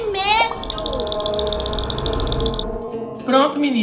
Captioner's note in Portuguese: Som fantasmagórico; Som de dentes rangendo